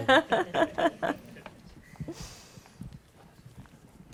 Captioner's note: laughter